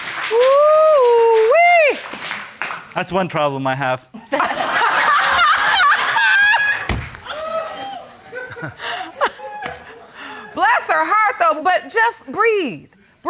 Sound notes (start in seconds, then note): 4.3 all laughing